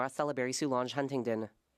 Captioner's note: speaking French